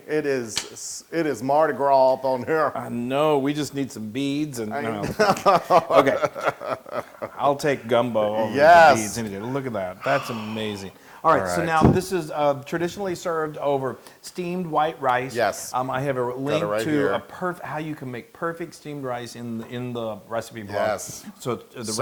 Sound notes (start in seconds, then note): 4.9 laugh